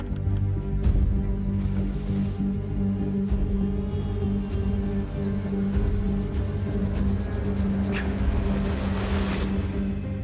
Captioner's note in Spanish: Bip repetitivo